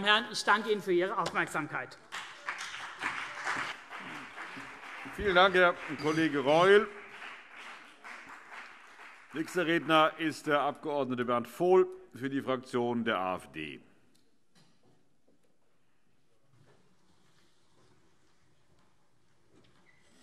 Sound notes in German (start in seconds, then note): 2.0 Beifall CDU und BÜNDNIS 90/DIE GRÜNEN